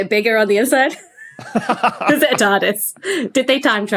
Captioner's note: laughs